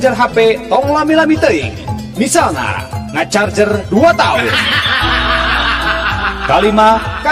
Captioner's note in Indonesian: tertawa